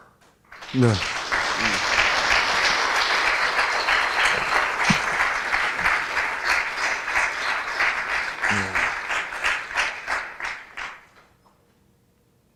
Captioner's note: crowd applauses